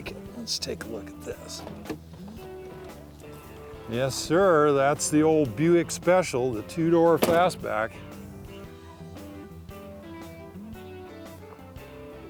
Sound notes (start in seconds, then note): 7.0 car door closes; 8.5 upbeat music